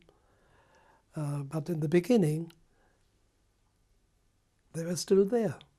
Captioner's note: pauses for 3 seconds